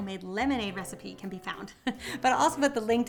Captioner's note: chuckling